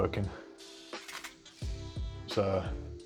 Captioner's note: clicks